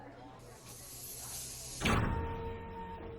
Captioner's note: machine sounds